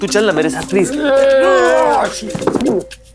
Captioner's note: Yoyo groaning